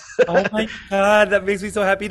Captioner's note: laughing